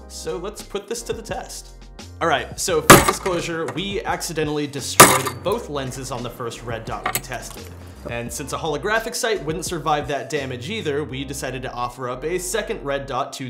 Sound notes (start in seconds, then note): 2.9 glass breaking; 5.0 glass breaking